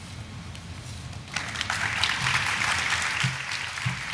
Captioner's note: audience clapping